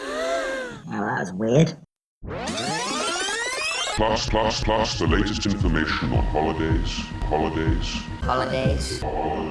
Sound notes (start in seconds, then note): 1.1 crowd gasp; 4.2 tape rewind; 4.8 stuttering